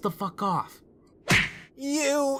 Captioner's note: smack